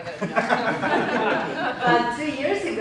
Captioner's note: laughing